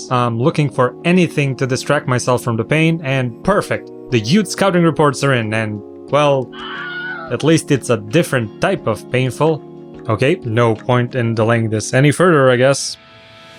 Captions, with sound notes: I'm looking for anything to distract myself from the pain and perfect! The youth scouting reports are in and... Well... [agonizing scream] At least it's a different type of painful! Okay, no point in delaying this any further, I guess.